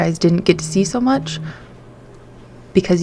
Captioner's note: phone vibrates